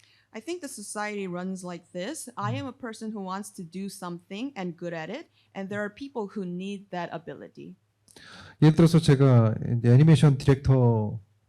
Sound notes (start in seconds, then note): 8.2 speaking korean